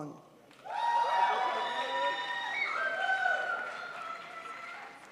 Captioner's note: crowd applauds